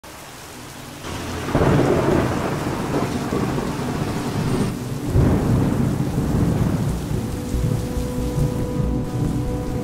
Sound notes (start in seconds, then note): 0.8 heavy rain sounds; 1.1 thunder sounds; 5.2 heavy rain sounds continued